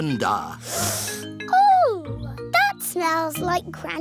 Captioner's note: sniffs